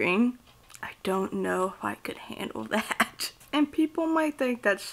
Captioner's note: chuckles